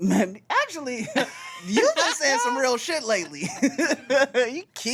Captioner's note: laughs